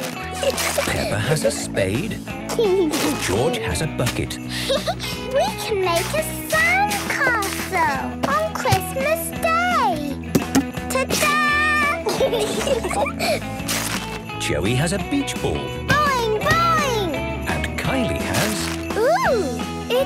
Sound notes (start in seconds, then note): 0.2 giggling; 4.4 giggling; 4.4 Peppa laughing; 12.0 laughter